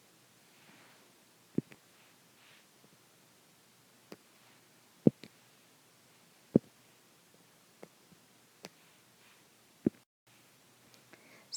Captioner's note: silence